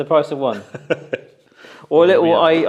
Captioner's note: laughs